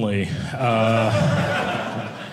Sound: audience laughing

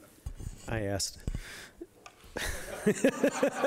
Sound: audience laughing; laughing

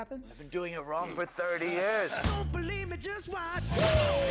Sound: man laughs

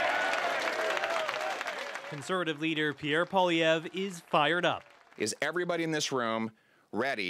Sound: applause

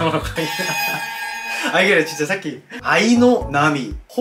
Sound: haha.. heyyyy

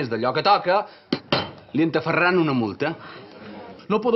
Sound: sighs

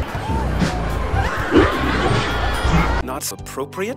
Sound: decreasing pitch

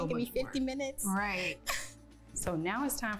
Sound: laughing

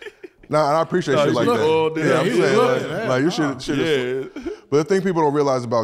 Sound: group chattering

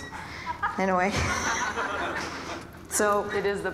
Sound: audience laughing

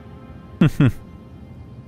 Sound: chuckles

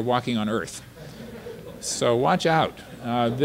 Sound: audience laughter

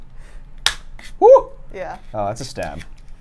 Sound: laughs; cup pops

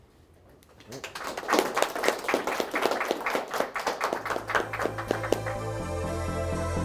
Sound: applause; closing music

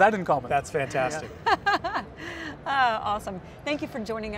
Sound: cheerful laughing

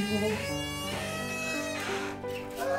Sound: door opens

